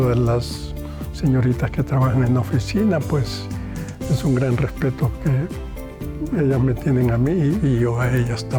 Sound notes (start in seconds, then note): 2.1 continues speaking in foreign language